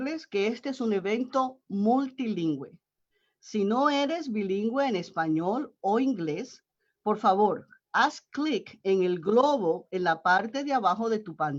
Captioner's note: Spanish